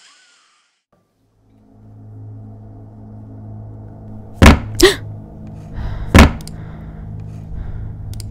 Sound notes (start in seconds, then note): 4.4 loud Thuds